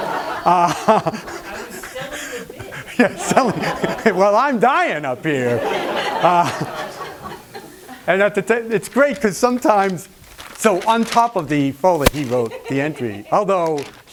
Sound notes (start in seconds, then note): 2.3 laughs; 7.2 laughter